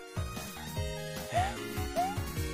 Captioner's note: sigh